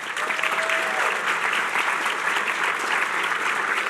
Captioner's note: applause